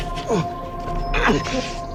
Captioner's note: grunting